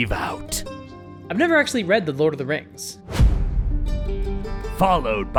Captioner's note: dramatic boom